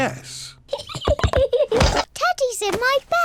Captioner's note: giggles